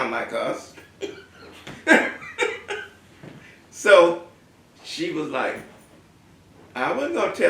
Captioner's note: laugh